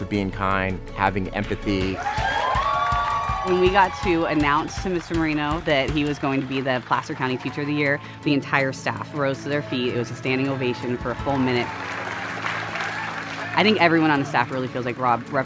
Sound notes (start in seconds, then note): 1.9 crowd cheers